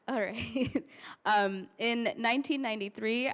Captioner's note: laughter